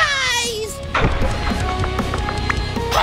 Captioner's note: loud crash; climbing sounds